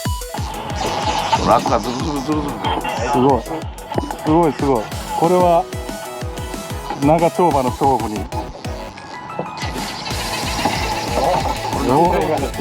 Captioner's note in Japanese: ドラグ音